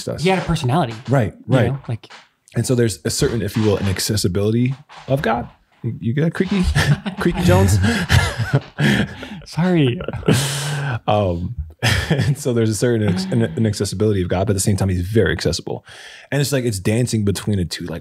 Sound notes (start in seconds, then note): 4.0 chair creaking; 6.6 all laughing